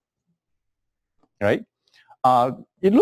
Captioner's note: pause